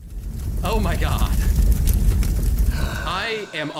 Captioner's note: fire crackling; laughs